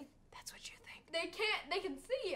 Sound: whispers

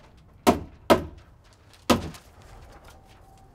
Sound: hammer thuds

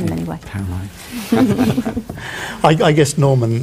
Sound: all chuckle

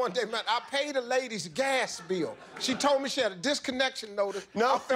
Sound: laughter

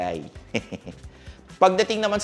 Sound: chuckles

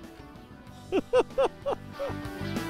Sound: laughter

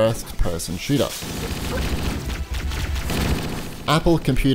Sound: rapid gun fire

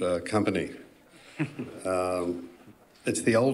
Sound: politician chuckles

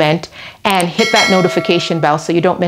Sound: bell dinging

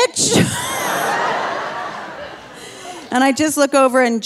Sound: laughing; audience laughing

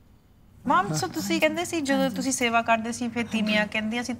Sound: all speaking Punjabi

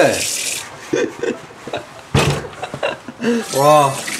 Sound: morning laughter

